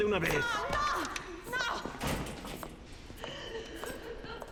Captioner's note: moaning, crying